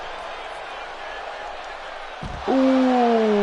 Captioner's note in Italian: Applauso